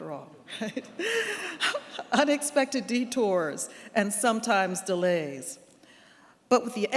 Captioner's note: laughs